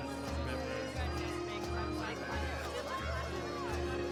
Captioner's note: chatter